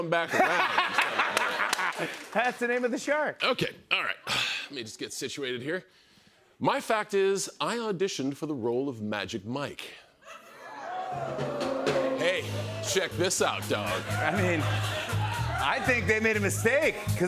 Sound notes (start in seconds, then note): 0.2 laughter; 10.6 audience "Oohs"